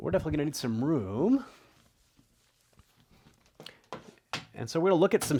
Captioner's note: eraser rubbing